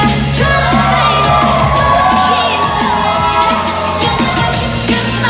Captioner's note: cheers